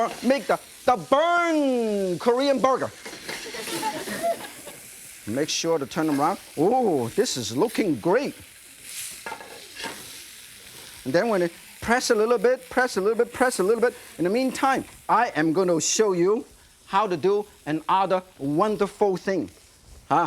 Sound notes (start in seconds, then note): 3.4 audience laughing; 8.4 meat sizzling